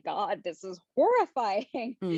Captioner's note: chuckles